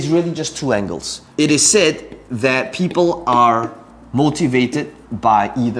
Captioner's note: tapping marker